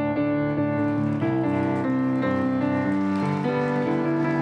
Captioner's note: applause